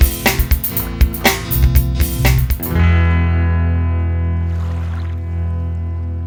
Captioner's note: waves gently splashing the shore